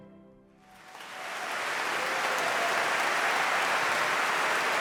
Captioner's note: cheers and applause